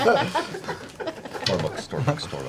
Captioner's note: all laugh